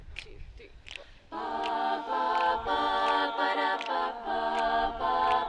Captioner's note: group humming